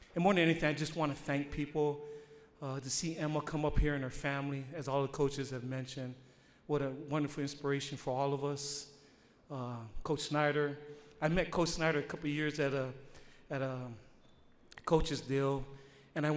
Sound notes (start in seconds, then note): none